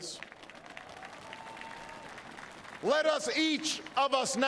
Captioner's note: applause